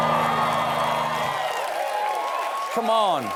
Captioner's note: cheers and applause